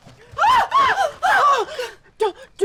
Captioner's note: screaming